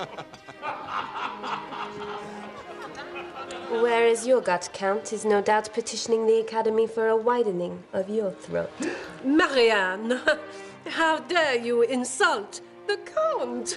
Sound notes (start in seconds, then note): 0.0 <i> laughter spreads</i>; 8.8 <i> gasping</i>